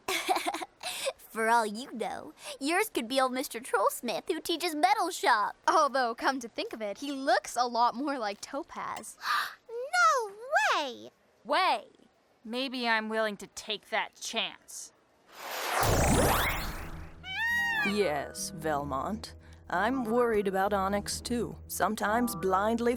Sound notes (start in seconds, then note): 0.0 laughs; 7.8 gasps; 15.6 bird squawks